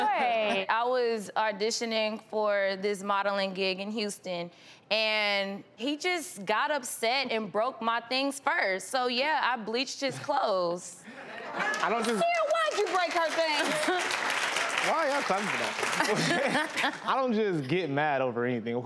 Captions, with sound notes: - Okay I was auditioning for this modeling gig in Houston, and he just got upset and broke my things first, so yeah I bleached his clothes. (audience laughs) - I don't just. - Cyril, why'd you break her things? (audience applauds) - Why y'all clapping now? I don't just get mad over anything.